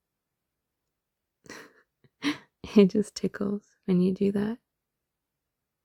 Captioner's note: laughs